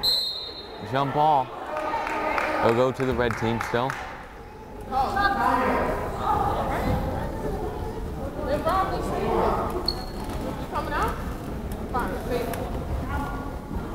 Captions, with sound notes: (whistle blows) Jump ball. It'll go to the Red team still. (crowd chattering)